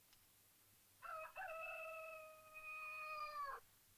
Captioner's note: cockerel crows